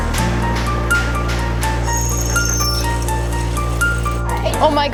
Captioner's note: teammates chatter